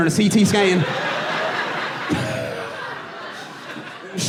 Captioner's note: audience laughing